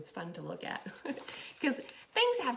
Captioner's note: laughs